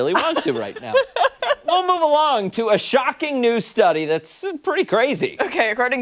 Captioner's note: laughter